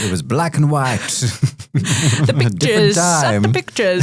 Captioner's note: group laughing